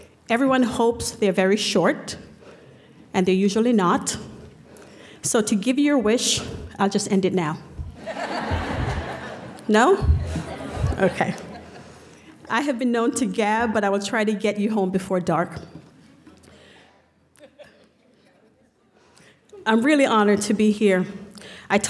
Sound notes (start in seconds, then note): 8.0 laughter